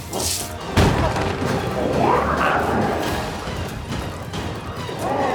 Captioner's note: glowzies growling; dramatic music continues